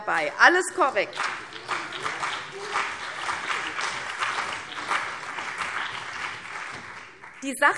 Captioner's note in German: Beifall CDU und BÜNDNIS 90/DIE GRÜNEN